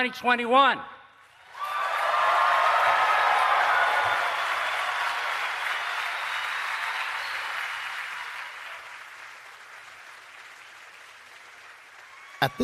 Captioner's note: applause